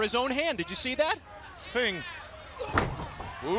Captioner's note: crowd chatter